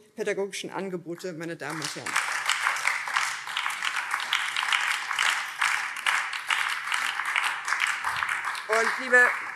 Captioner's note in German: Beifall BÜNDNIS 90/DIE GRÜNEN